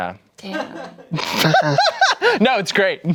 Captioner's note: laughs